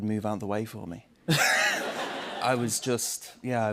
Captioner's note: laughter